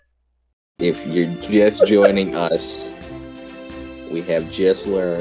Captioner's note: laughs